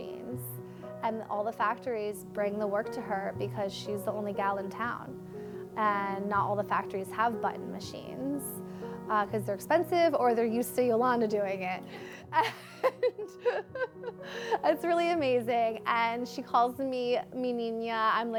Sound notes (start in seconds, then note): 12.3 laughs